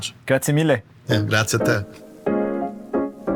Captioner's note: speaking Italian